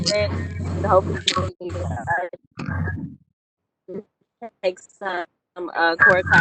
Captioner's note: voice distorting